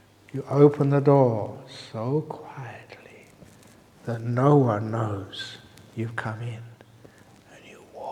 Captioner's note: whispering